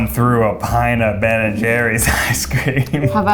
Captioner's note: laughs